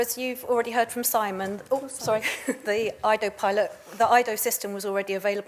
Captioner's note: chuckles